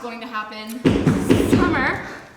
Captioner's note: loud knocking